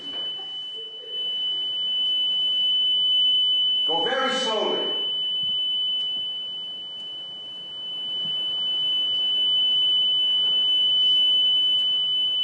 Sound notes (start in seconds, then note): 0.0 laughter; 0.7 tone continues